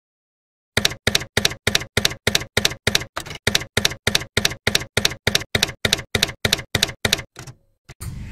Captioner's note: typewriter keys clacking